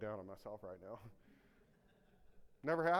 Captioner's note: audience laughing